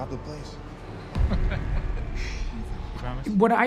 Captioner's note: chuckling